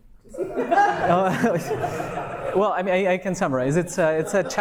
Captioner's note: audience laughs